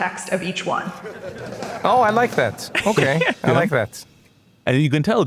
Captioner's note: laugh